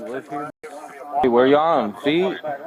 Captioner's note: radio chatter